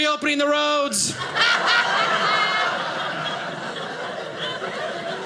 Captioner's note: audience laughing